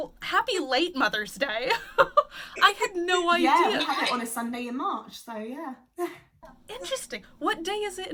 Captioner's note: laughs